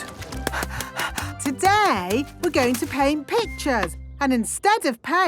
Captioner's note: panting